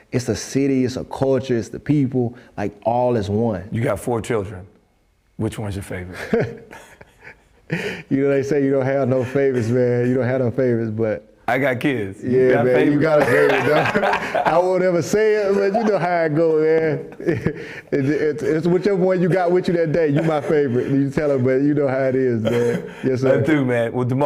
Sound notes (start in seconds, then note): 12.9 laughter; 18.2 laughter